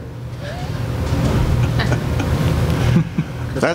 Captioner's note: laughing